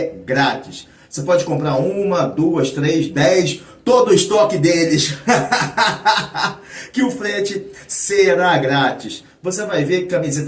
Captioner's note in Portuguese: risadas